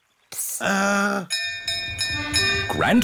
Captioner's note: bell rings